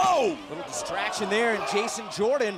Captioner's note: fans chanting